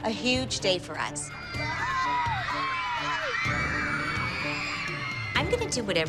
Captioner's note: cheering